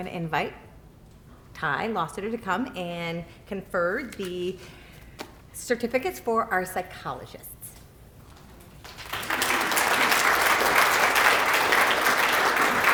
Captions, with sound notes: to invite Ty Lostutter to come and confer the certificates for our psychologists. [APPLAUSE]